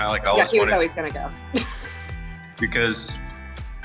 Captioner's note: laughs